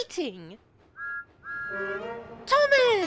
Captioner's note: thomas whistles